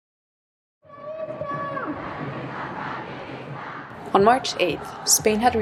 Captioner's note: people chanting